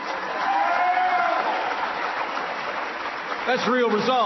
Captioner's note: applause